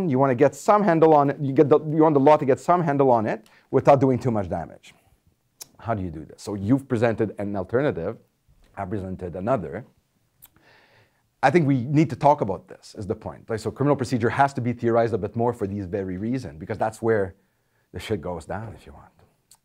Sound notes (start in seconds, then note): none